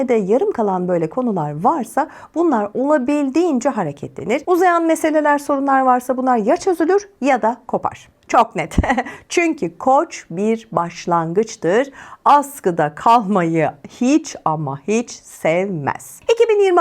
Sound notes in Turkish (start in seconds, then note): 8.6 kahkaha